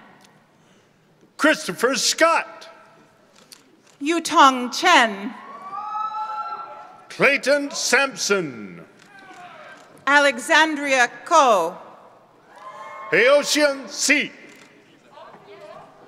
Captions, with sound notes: - Christopher Scott. - Yutong Chen. (members of the audience cheer) - Clayton Sampson. - Alexandria Cao. - Haotian Si.